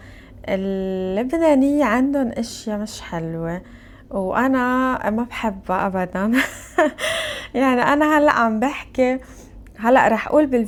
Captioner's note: laughter